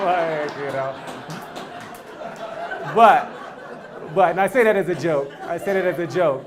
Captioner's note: applause; laugh